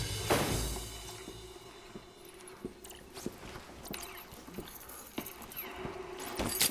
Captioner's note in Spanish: ruido de los videojuegos